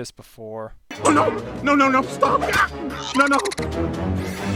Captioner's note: chokes